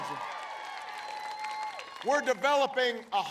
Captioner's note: applause